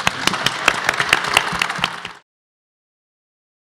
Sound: applause

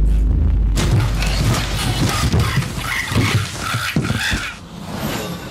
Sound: shuffling sounds with short screams; whoosh

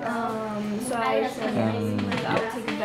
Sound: other students talking in the background

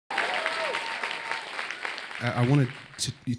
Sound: audience clapping

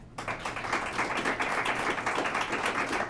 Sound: applause

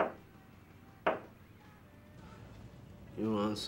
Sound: knocking

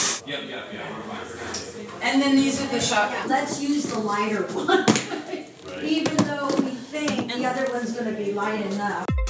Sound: people talking in the background

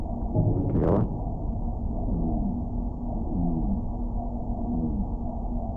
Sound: man speaks in muffled voice

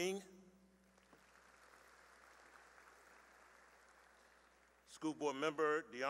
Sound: applause

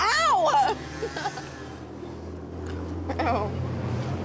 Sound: laughing

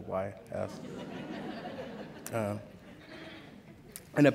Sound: laughter

